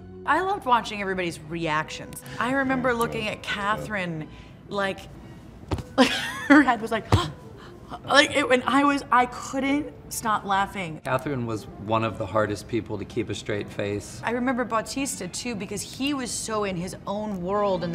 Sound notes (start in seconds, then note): 5.6 Kate's hand thuds; 5.9 Kate laughing